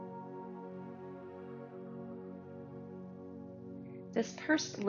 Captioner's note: pursed lips breathing